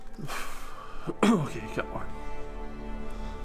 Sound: cough

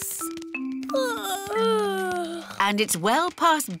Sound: yawning

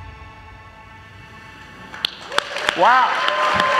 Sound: audience applauding

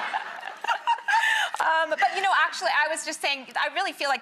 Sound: laughs

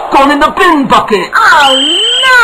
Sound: sound on tv

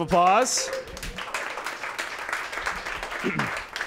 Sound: applause

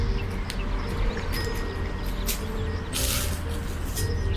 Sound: leaves crunching

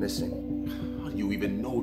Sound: Samuels sighs

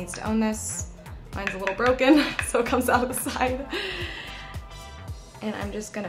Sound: laughs

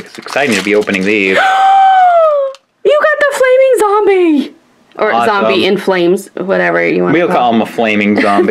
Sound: gasps

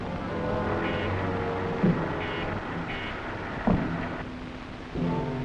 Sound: iron man beeping and whirring

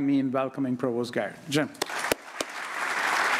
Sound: applause

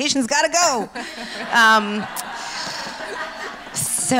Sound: laughs

